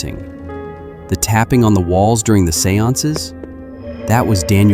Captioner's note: tapping